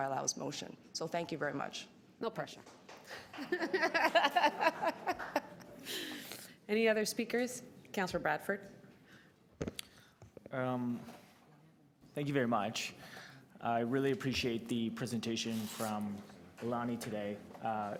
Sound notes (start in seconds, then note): 3.3 laughter